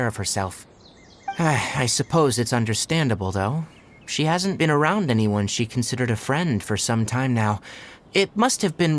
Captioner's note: sigh